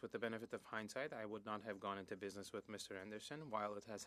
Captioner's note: speaking French